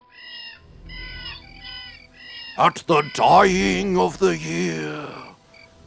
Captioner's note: crows cawing